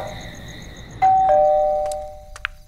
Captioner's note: Doorbell rings